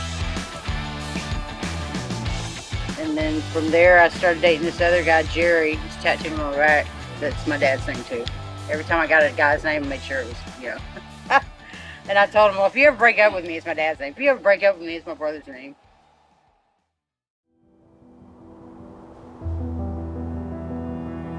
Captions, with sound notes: And then from there, I started datin' this other guy Jerry who's tattooed on my back. That's my dad's thing too. Every time I got a guy's name, I made sure it was, you know? (laughs) And I told him, "Well if you ever break up with me, it's my dad's name. If you ever break up with me, it's my brother's name." (soft serene music)